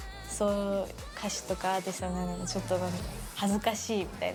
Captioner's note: speaking in foreign language